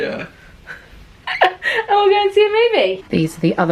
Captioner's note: laughs